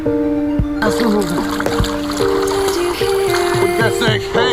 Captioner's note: water splashing